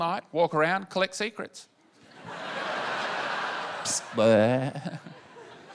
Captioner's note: laughter